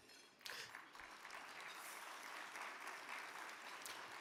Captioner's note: crowd clapping